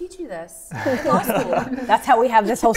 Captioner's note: laughs